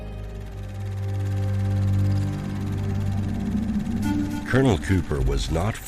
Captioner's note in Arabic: موسيقى مشؤومة; صوت دقات الفيلم